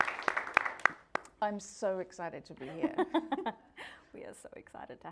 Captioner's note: audience applauding; both laughing